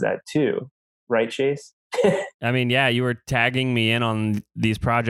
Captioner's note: laughs